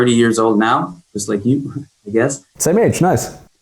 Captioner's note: chuckles